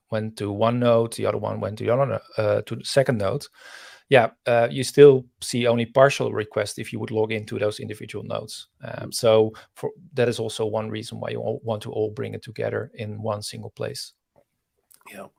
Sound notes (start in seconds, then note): none